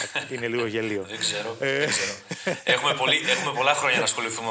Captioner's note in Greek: γέλια